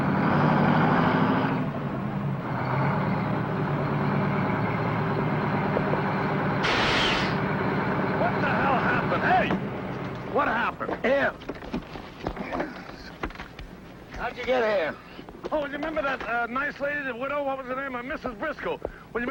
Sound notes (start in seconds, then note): 0.3 truck engine whirring; 6.5 truck hisses and stops